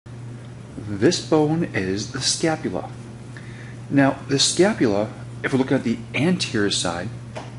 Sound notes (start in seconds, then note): 1.2 voiceover